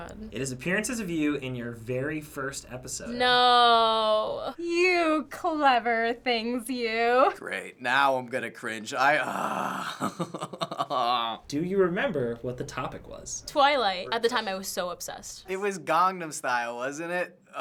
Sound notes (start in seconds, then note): 9.3 laughing; 10.8 groaning